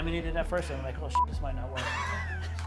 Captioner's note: beep; laughs